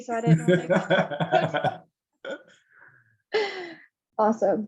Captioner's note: laughter